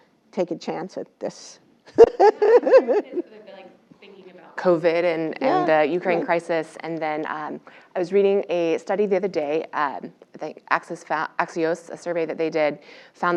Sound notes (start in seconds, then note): 2.0 laugh